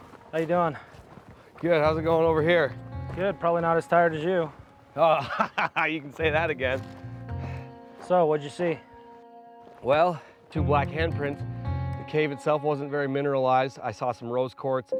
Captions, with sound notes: How are you doing? Good. How's it going over here? Good. Probably not as tired as you. Oh-- [laughing]---- you can say that again. So, what did you see? Well, two black handprints. The cave itself wasn't very mineralized. I saw some rose quartz.